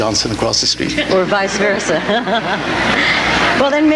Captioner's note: laughs